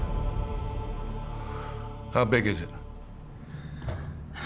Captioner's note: sigh